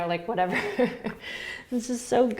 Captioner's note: laughter